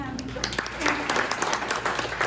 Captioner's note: applause